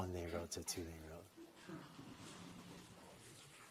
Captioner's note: laughter